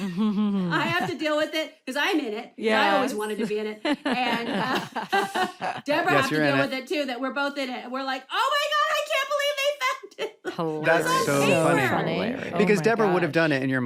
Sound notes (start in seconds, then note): 3.9 all laughing; 10.1 chuckles